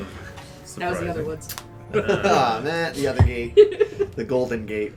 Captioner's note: giggles; laughs